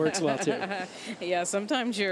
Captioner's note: laughs